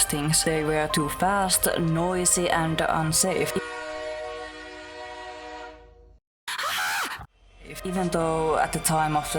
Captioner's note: train horn; screams